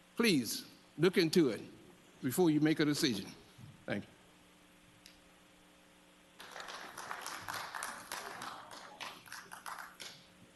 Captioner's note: applause